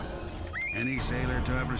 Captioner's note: screams